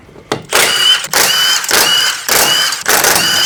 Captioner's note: drill whirring